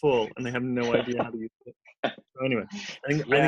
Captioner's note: laughter drowns out dialog